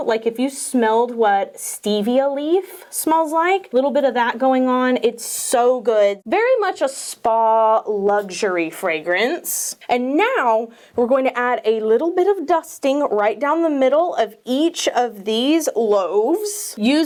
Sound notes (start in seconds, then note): none